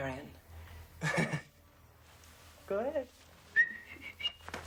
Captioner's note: chuckles; whistles playfully